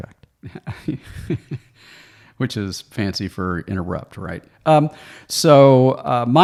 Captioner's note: chuckles